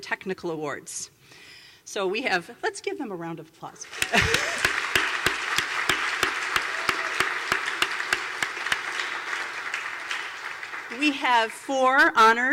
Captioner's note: applause